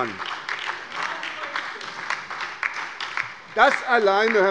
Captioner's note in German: Beifall bei der SPD und der LINKEN - Zuruf von der SPD: Genauso ist es!